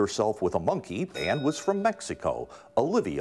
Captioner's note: bell rings